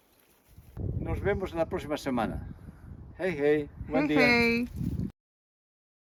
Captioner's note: speaking Spanish